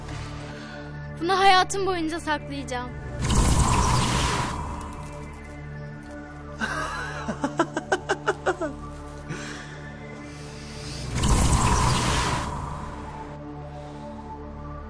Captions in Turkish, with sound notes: Bunu hayatım boyunca saklayacağım. [GERİLİM MÜZİĞİ ÇALIYOR] [GÜLME SESİ] [GERİLİM MÜZİĞİ ÇALIYOR]